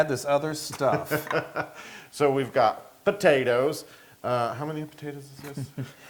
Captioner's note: laugh; laugh